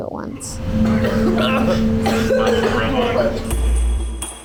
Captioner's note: coughing and gagging